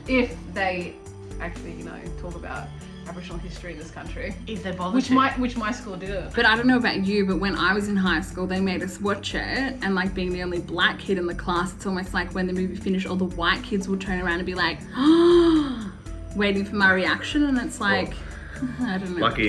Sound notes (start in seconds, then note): 14.9 gasps